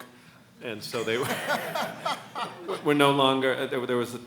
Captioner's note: laughs